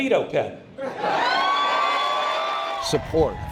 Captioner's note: cheers